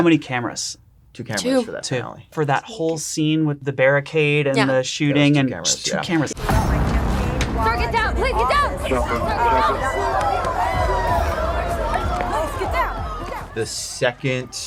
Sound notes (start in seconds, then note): 10.8 crowd murmuring excitedly